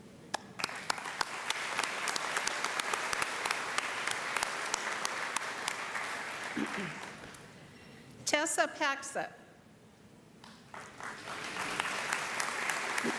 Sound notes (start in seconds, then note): 3.6 applause; 13.0 applause